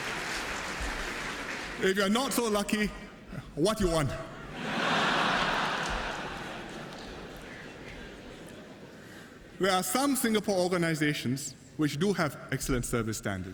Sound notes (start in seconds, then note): 0.0 laughter and applause; 4.4 laughter